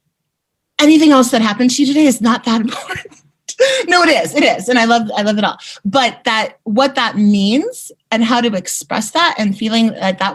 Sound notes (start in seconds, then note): 3.6 laughing